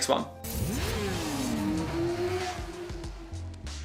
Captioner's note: motorcycle revving; upbeat music